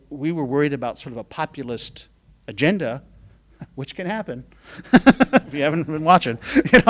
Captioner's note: laughing